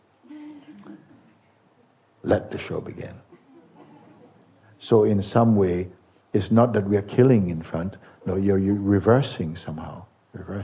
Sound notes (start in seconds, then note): 3.4 laughter